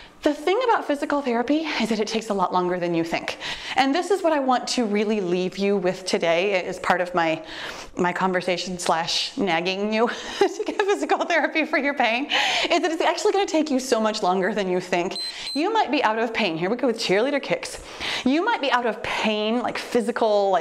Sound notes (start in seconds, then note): 15.1 timer beeps